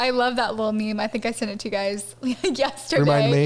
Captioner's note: chuckles